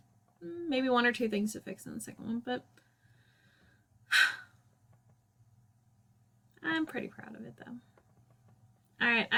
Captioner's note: sigh